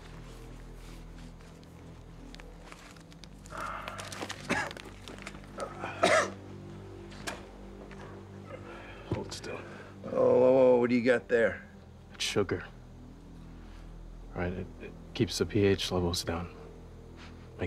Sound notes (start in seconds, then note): 5.5 coughing